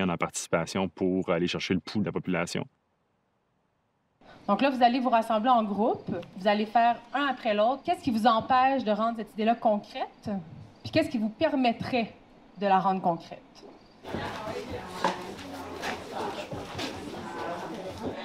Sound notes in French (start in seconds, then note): 15.6 brouhaha de voix